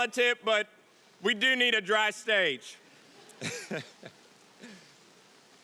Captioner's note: laughs